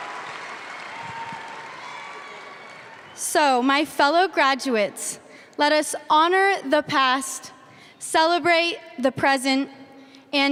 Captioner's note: applause